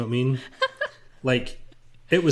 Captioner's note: laughs